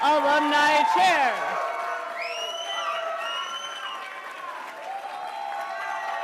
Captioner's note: attendees cheering and applauding